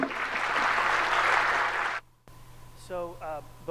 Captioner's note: audience applauds